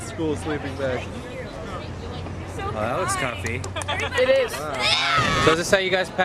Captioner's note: screams